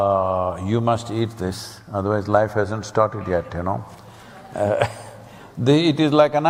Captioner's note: laughs